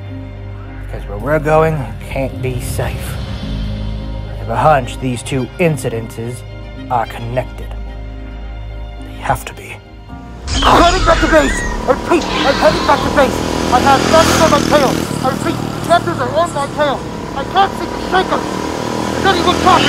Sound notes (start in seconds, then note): 10.0 motorbike Sounds; 10.4 Raptor Squeals; 19.4 raptor Squeals